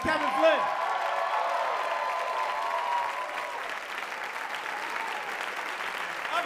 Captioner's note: applause